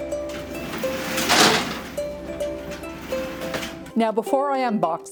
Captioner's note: garage door screeching